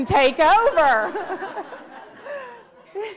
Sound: audience laughs

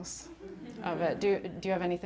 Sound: audience laughing

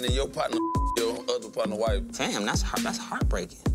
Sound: beep

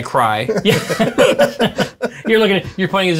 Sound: laughter

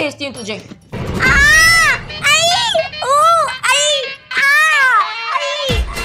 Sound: beating

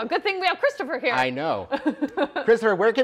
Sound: woman laughs

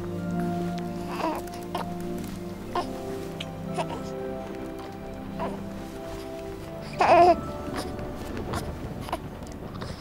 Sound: Brady coos

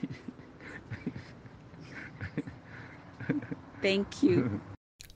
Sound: laughs

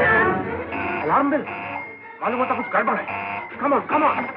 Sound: alarms Wailing

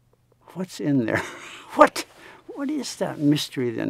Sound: laughs

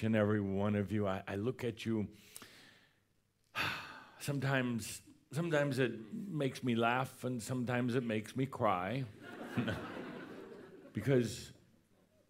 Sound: laughter

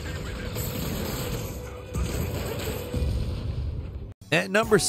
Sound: guns blasting; explosions booming

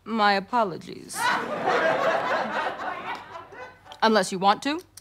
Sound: audience laughter

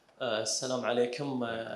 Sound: speaking in foreign language

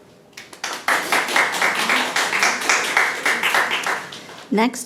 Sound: people clapping

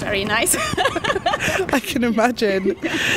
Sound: both laugh

